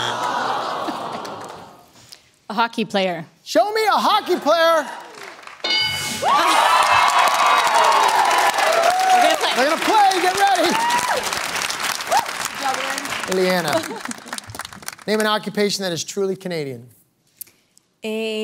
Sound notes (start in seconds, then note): 5.6 bell dings; 6.5 applause; 11.4 applause